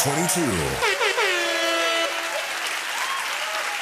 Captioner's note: air horn blows; cheers and applause